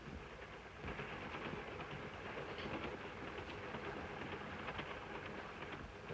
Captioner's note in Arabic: صوت خشخشة القطار